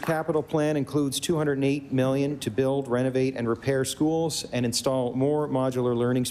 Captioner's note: applause